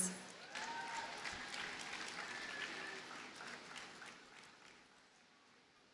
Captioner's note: audience cheers and applauds